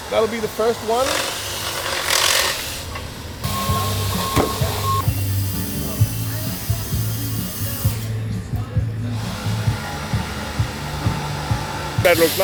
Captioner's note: construction noise